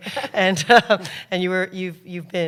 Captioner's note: laughter